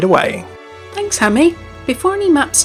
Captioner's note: voiceover